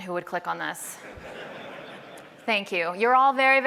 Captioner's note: laughter